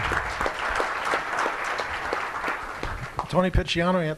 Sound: applause

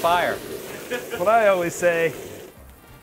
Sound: laughing

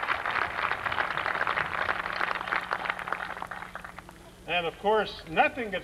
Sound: applause

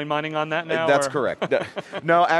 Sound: laughs

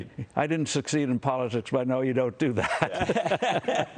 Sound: laughter

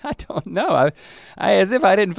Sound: chuckles

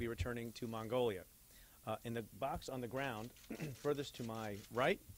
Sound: clears throat

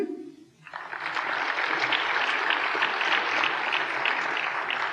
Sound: applause

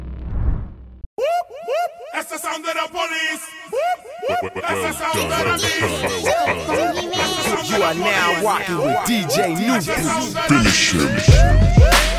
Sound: woop, woop

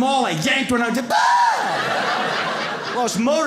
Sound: yells

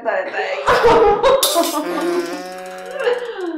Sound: laughing

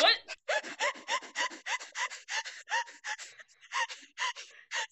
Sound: hyperventilating because laughing so hard

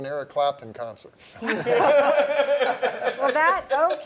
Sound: laughter

